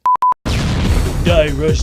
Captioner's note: explosion